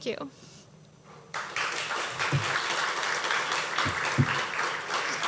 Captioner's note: audience clapping